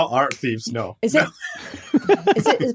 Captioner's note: laugh